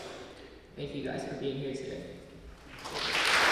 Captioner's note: applause